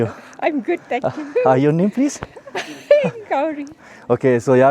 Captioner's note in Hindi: हंसी